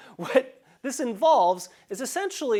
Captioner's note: laugh